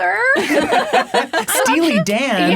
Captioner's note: laughing